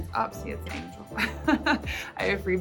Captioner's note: chuckles